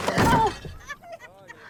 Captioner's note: bang